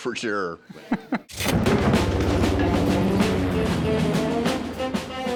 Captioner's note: laughs; military music; airplane engines roar